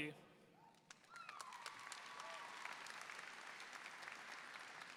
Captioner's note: audience applauding